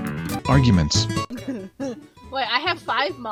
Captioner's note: to be continued meme plays; drunken laughter